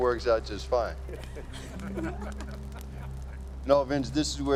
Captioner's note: laughter